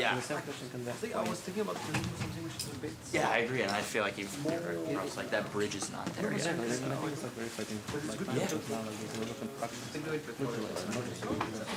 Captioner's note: indistinct conversation